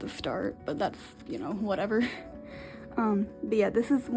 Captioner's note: laughs